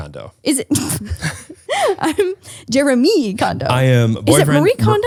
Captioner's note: laughs